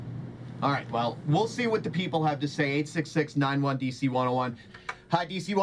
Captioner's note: Mike on speaker